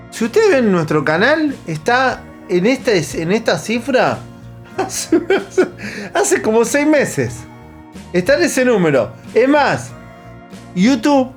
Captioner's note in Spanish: risas